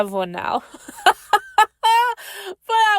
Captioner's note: laughs